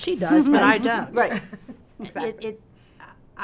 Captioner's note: all laughing